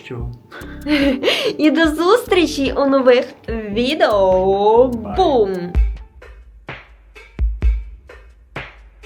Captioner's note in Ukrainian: сміх